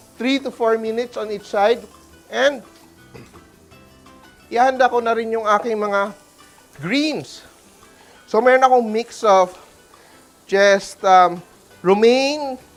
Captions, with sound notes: 3 to 4 minutes on each side. And -- [Clears throat] I'll also be preparing my -- greens. So, I have a mix of -- Subtitle Romaine --